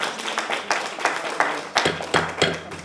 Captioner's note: applause